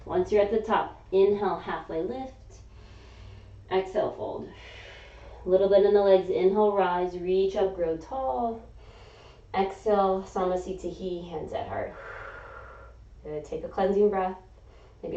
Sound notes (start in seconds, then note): 2.7 inhaling; 4.5 exhaling; 8.4 inhaling; 11.9 exhaling